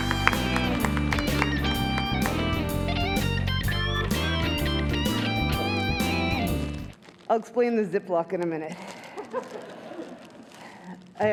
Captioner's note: cheers and applause